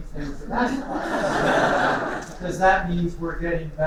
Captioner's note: laughter